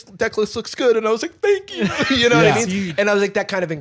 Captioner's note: tearfully